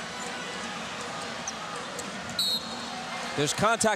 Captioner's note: whistle blows